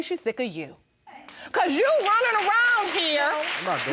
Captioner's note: audience applauds